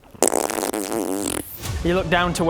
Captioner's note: indecisive farting